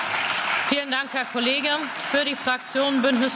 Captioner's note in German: Beifall